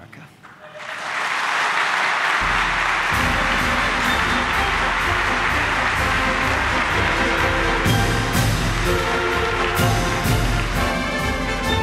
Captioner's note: applause